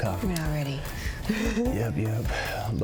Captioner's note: laughs